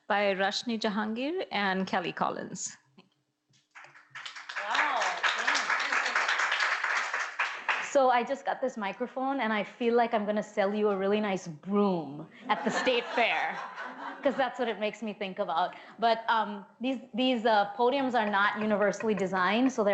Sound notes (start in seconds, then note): 3.7 audience applauds; 12.5 audience laughs